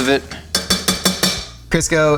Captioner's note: spoon clanking